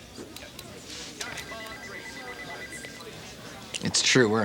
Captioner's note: phone ringing